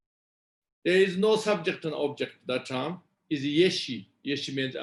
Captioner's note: tibetan